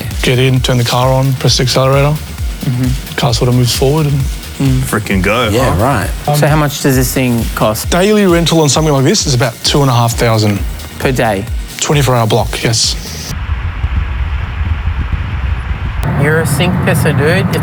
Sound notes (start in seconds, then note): 12.9 engine humming